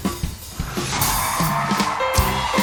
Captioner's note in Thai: ปรบมือ